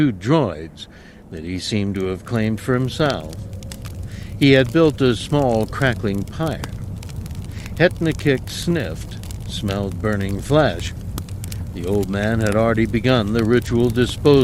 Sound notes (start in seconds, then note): none